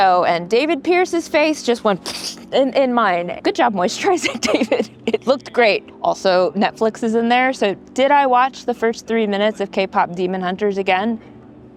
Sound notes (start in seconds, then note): 4.0 laughs